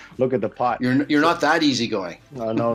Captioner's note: Nobu chuckling; laughs